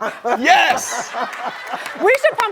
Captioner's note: laughing